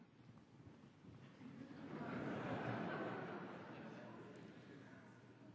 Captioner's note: laughter